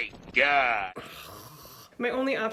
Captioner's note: groan